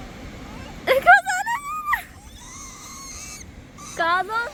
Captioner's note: screeches in fear